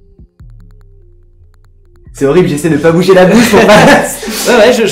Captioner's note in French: Rires